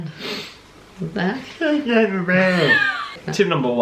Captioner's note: goofy mumbling